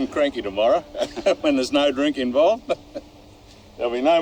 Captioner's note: laugh